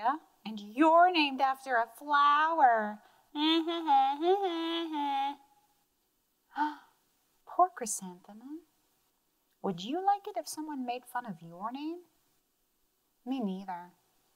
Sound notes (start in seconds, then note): 6.9 gasps